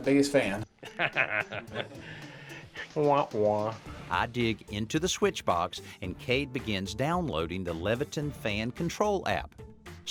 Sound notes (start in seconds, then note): 0.8 chuckles; 2.9 makes mocking sound